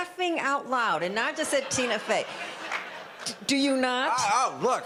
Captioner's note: audience laughter